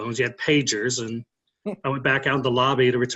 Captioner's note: laughing